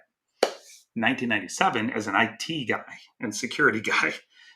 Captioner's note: hands clapping